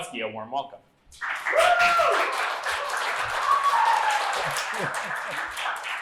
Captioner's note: cheers, applause